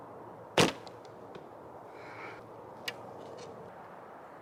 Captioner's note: bow thumps